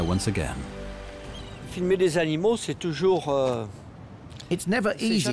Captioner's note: speaking French